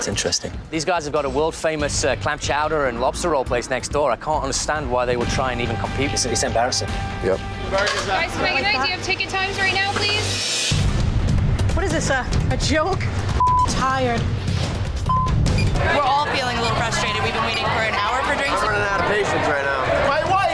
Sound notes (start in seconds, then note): 11.0 dramatic music continues; 13.4 beep; 15.1 elapsed time clock beeping